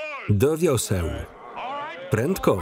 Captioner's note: chatter